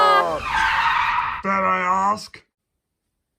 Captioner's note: car brakes